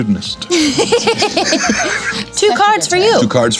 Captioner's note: everyone laughs